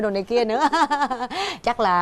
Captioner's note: laughing